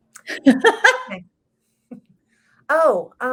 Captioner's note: laughs